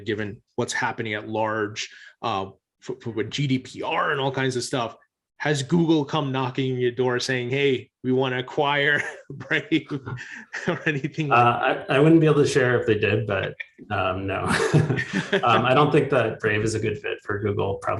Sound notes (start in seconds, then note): 8.8 chuckles; 14.4 both laughing